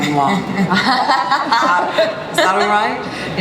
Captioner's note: audience cheering